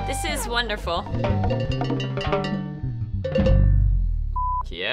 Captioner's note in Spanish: campana de vaca sonando; Pitido